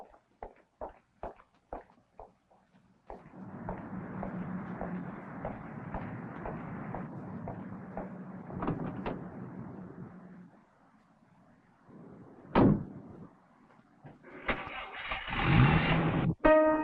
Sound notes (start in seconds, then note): 3.2 traffic whooshing; 8.9 car door clanking; 12.5 car door thudding; 14.2 engine rumbling; 16.4 upbeat piano music